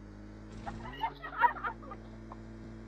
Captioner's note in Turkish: Kızların gülme sesi